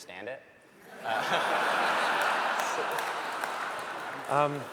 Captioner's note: laughter